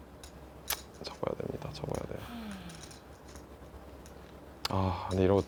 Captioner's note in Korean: 콧방귀